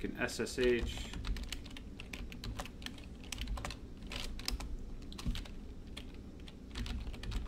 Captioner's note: keyboard typing